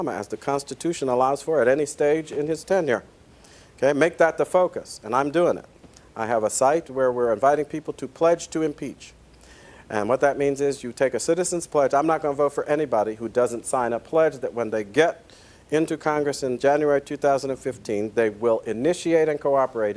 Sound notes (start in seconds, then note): none